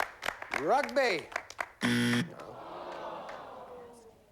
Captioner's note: buzzer